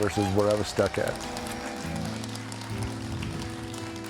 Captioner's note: audience cheering and applauding; gentle music